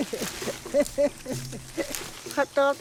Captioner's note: laughs